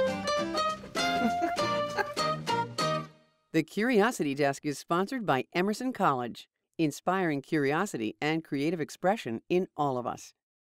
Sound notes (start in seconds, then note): 0.9 laughs